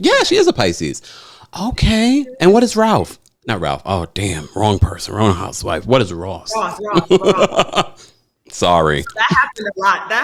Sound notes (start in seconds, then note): 6.6 laughing